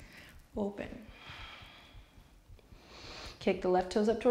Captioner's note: breaths softly